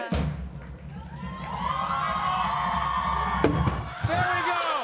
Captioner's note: drumroll; cheers and applause